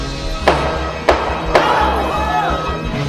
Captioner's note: gun firing; crowd gasps